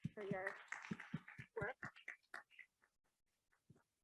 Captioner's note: audience claps